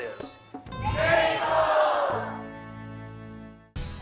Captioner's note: everyone shouting